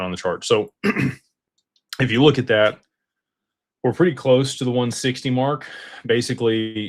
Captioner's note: clears throat